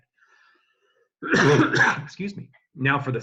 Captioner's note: cough